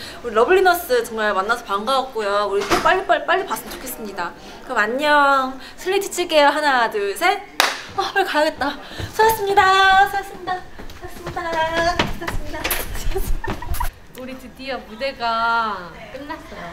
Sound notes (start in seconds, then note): 7.5 clap